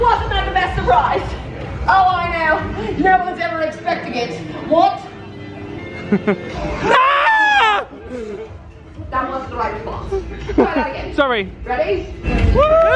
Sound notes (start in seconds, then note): 6.8 screams